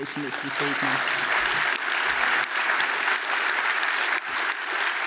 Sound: applause

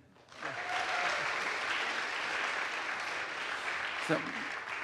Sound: audience applauds

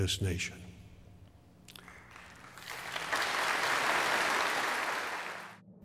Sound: applause

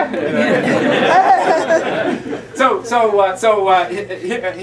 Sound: laughter

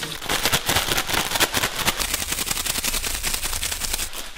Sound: bag crackles

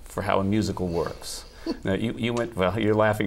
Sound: laughter

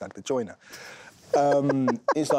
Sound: laughs

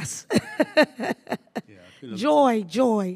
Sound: laughs

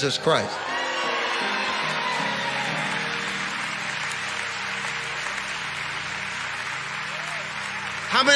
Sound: congregation applauding

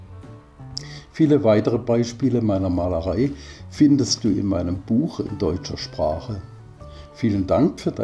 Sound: in German

